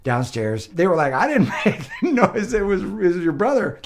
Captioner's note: chuckles